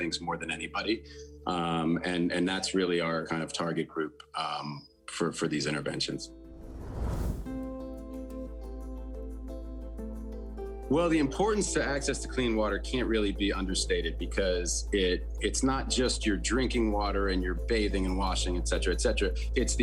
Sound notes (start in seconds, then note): 6.4 image whooshing; 6.8 pensive instrumental music